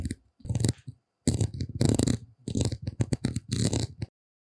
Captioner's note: clatter